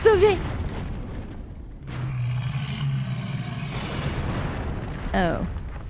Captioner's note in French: explosion